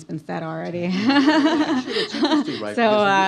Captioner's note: laughs